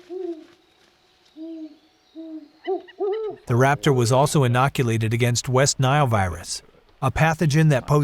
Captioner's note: owl calls